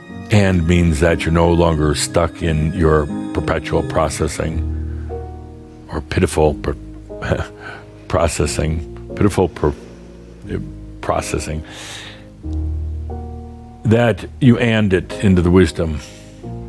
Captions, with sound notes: And …. means that you’re no longer stuck in your perpetual processing or pitiful processing (Adamus chuckles) – pitiful processing – that you And …. it into the wisdom.